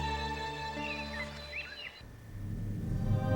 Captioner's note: birds chirp; haunting music